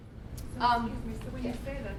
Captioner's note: voiceover